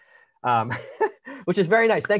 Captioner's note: laughing